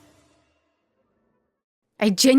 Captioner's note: complete silence again